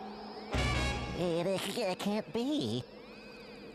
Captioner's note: stuttering